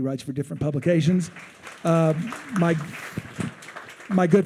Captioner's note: attendees applauding